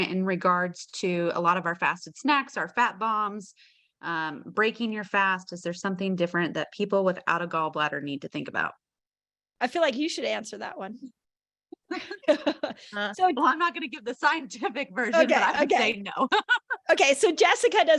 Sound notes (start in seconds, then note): 11.9 laughs; 15.1 laughs